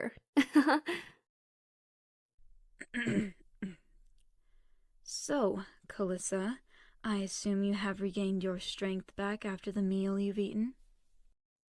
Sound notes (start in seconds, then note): 0.4 Calissa laughs; 2.8 clears throat